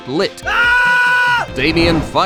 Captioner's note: screams